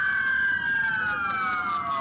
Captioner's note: sirens